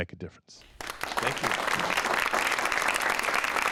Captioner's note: audience applauds